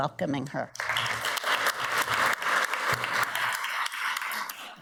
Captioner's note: audience applauds